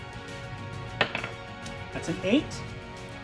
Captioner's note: die rolling